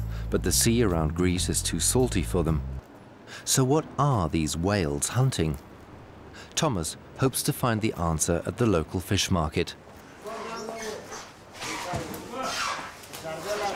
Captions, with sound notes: but the sea around Greece is too salty for them. So what are these whales hunting? Thomas hopes to find the answer at the local fish market. [stall holders shout]